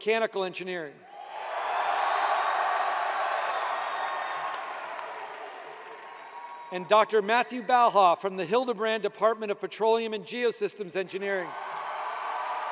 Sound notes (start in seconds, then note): 3.3 cheers and applause